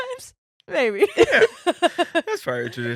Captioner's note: laughing